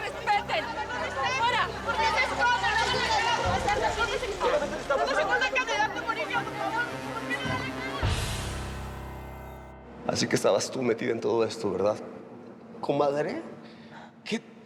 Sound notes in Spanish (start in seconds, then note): 5.2 comentarios al unísono